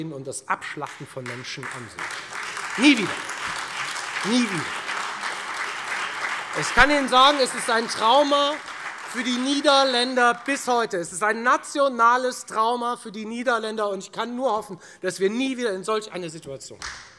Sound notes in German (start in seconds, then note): 4.3 Beifall